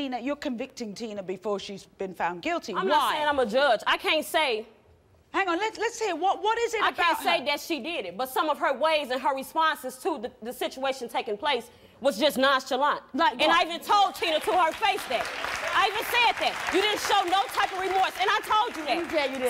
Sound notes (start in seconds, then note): 14.2 applauding